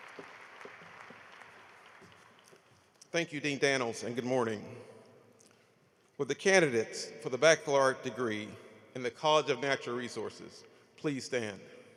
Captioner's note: applause